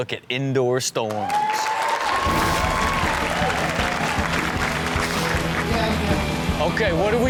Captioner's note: audience cheers; rock music